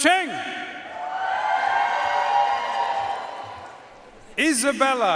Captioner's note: audience cheering and applauding